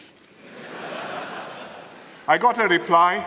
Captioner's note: laughter